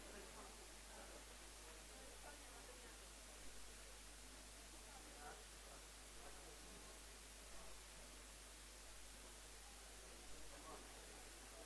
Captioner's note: background chatter